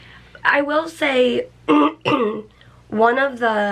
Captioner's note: clears throat